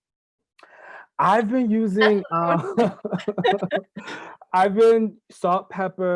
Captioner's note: laughing